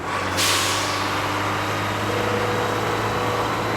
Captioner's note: engine revs